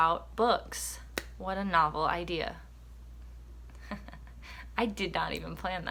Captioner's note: chuckles